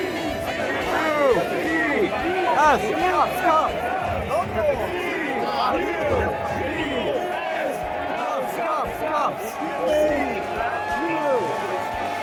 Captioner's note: ”C. U. P. S. Cups Cups Cups” chant